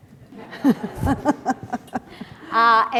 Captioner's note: laughter